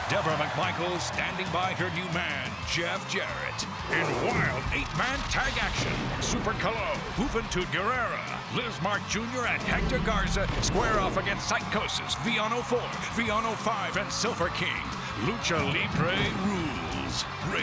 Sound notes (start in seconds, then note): 3.8 graphics booming